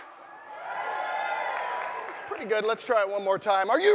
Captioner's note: audience cheering